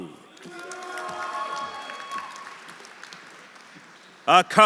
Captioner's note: audience cheering; audience applauding